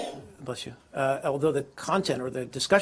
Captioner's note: sneezes